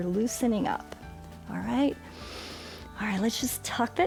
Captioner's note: inhales